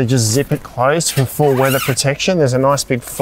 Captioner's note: zip hissing